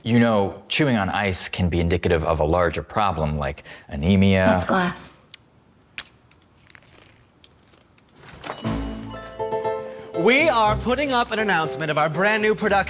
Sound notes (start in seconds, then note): 6.0 crunch/shatter; 8.2 door jingle